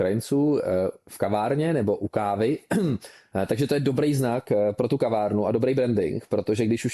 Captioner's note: clears throat